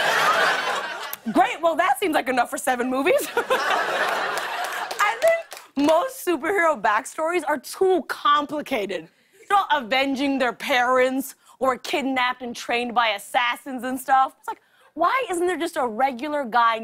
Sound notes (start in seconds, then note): 3.1 laughter